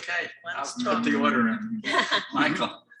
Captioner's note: laughs